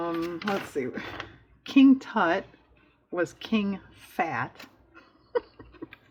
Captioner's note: laughs